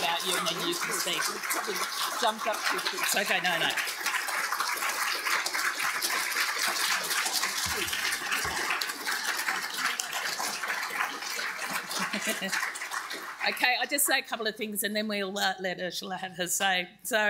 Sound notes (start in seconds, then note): 2.3 speaking faintly; 4.6 audience applauding; 11.6 laughs